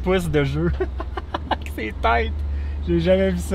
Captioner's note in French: Rire